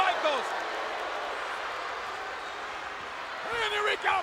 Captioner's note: audience booing